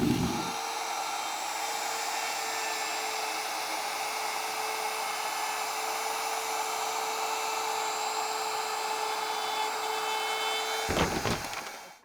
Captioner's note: sawing